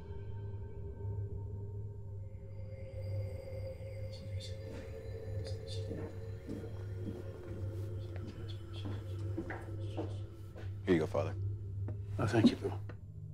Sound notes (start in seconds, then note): 5.5 father murmuring